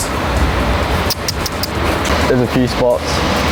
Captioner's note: tsking